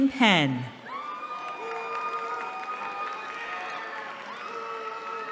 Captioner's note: cheering